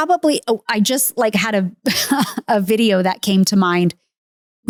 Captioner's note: laughs